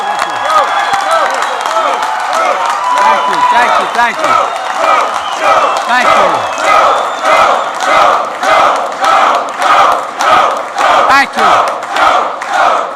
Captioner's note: applause